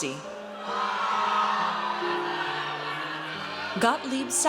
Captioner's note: audience cheers